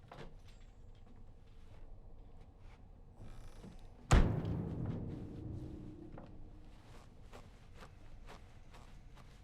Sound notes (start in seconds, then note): 4.1 door slams